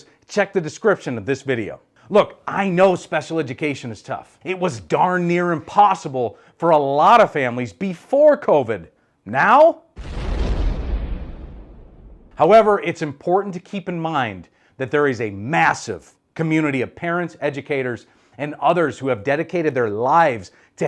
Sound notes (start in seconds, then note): 9.9 lightning